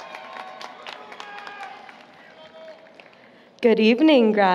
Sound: applause, Cheering

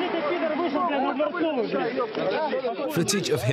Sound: speaking in foreign language

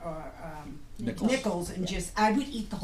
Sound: voiceover

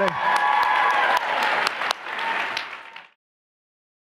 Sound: cheers and applause

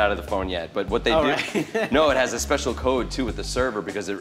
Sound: laughs

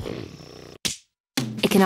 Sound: snoring; whack

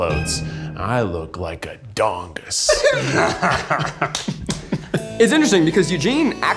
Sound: group laughs

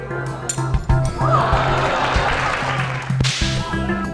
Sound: applause

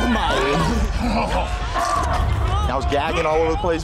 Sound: gagging

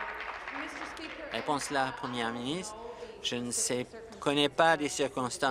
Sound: applause

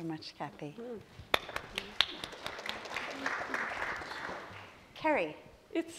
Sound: applause

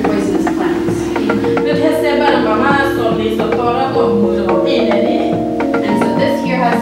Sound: translating in Burmese

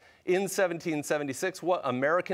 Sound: none

